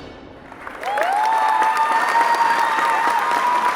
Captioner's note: audience cheers